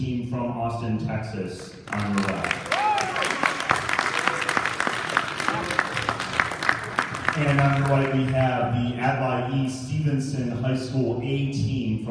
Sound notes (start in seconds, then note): 1.6 applause